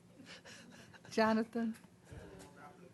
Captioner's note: off mic